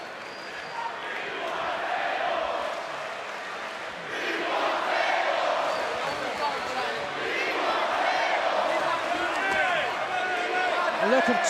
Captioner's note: crowd cheering